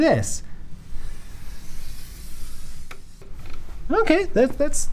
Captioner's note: chalk scraping gently